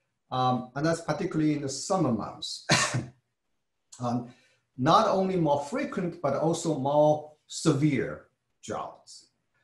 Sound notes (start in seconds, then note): 2.6 cough